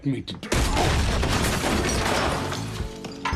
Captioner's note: soundbite of glass shattering